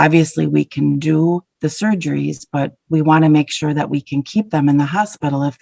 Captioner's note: none